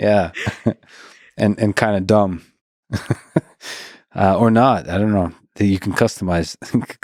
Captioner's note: laughs